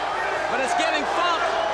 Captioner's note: crowd chatter